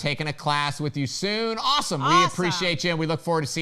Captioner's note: laughing